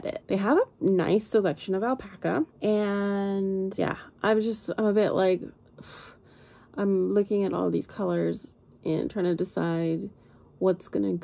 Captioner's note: sighs